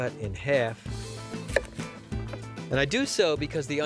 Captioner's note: chopping